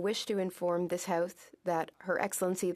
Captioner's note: speaking French